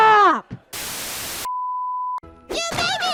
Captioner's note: TV Static and Bleep